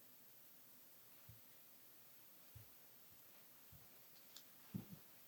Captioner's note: footsteps thumping